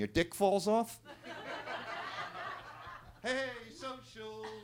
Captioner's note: attendees laughing